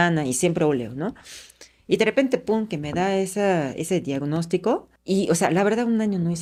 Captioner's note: sighs